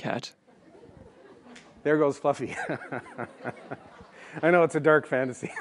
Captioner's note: chuckles